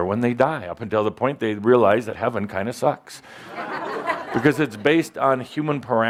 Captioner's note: laughter